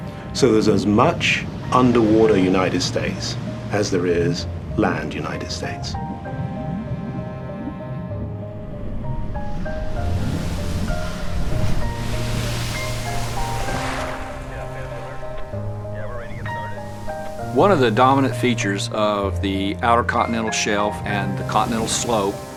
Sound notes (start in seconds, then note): 8.8 waves crashing; 14.3 radio